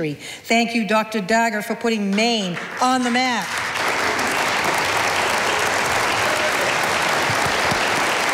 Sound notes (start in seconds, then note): 2.6 audience applauding